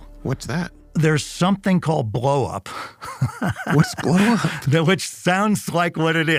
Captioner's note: laughs